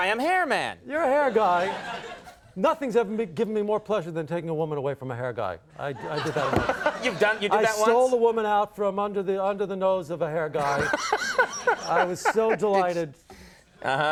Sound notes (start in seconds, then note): 1.4 audience laughs; 6.0 audience and Conan laugh; 10.6 Conan laughs